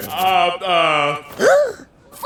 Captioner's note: gasps